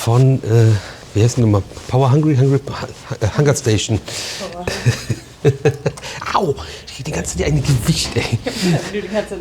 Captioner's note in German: gelächter